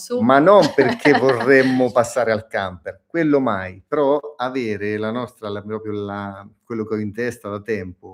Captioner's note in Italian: risate